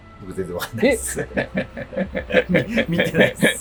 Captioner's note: laughing